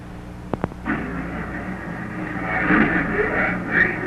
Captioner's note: engine revving